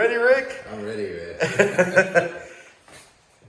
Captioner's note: laughs